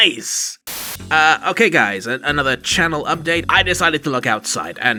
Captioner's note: static